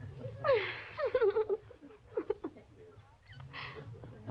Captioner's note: laughing